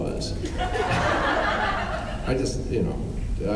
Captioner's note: laughs